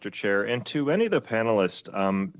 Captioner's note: speaking French